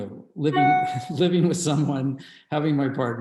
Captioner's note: loud chiming; laughs